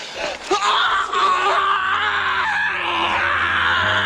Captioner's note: screaming